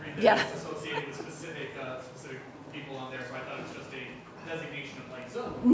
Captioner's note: audience Chatter